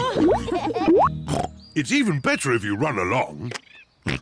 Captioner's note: all laugh; oinks; oinks